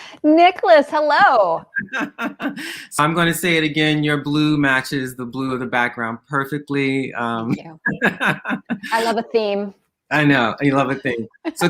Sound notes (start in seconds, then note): 1.6 laughing; 7.1 laughing